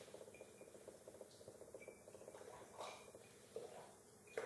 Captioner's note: sips from mug